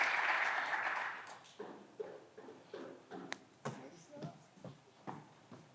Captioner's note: footsteps approaching